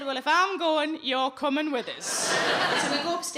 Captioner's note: audience laughing